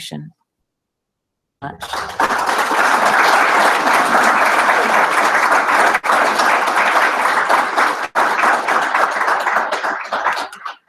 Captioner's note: applause